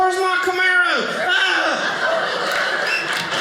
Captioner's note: audience laughing